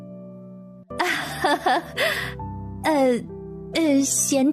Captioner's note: laughter